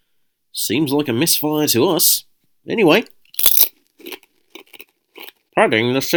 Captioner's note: crunch